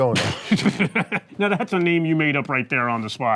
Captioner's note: laughing